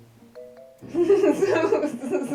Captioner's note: laughing